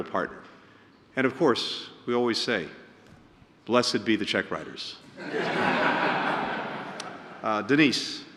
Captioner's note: laughter